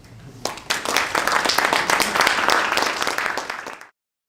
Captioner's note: applause